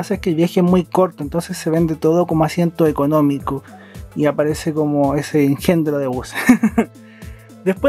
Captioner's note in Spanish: risas